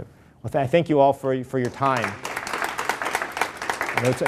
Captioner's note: applause